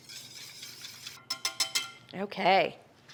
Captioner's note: hand whisk mixing; metal clanging